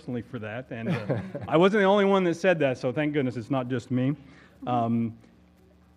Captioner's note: laugh